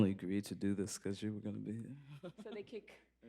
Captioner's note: laughs